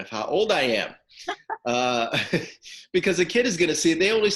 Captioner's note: laughing